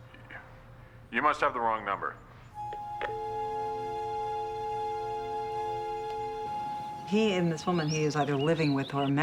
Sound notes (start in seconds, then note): 2.9 click, Dial tone